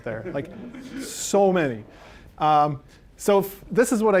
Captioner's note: audience laughing